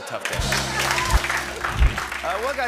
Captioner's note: cheering and applause